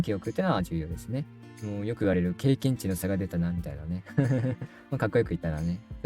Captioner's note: laughs